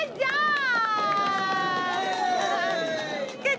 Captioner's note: applause